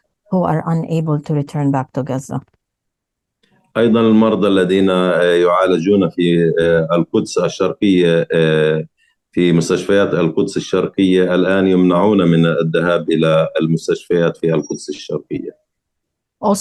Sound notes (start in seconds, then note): 3.7 speaking arabic